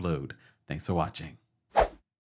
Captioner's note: air whooshing